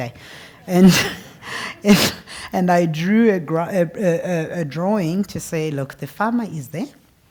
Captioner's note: laugh